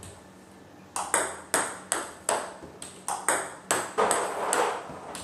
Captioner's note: ball ping pong hitting continues